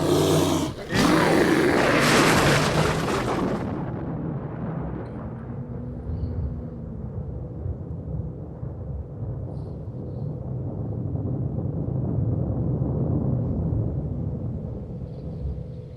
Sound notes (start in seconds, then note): 2.0 thunder rumbling